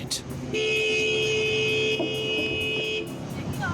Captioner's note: car horn